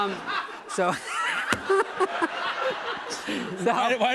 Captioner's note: laughter